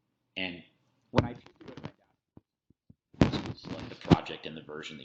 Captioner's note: keyboard keys clicking; static buzzes; audio breaks up